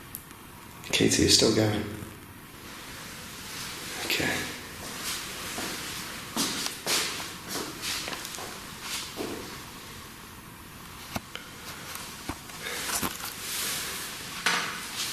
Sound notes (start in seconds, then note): none